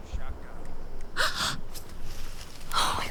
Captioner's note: Jessie gasps